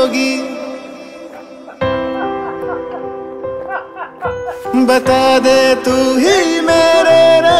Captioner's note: kashmiri villagers talking